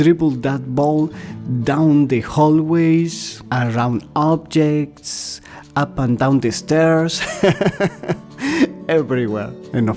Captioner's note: laughter